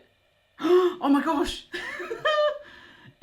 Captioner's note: laughs; gasps